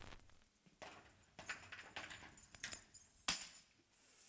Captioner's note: keys jangle & drop